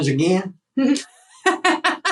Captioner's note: laugh